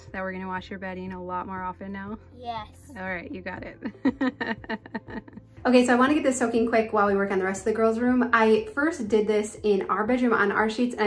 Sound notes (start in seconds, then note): 3.9 laughs